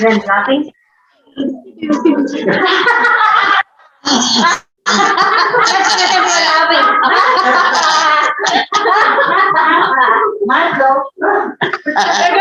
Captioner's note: everyone is laughing